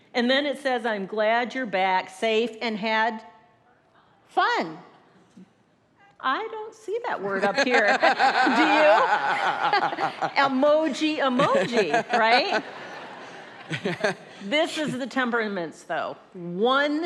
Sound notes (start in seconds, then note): 7.3 laughs